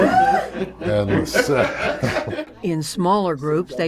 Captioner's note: laughter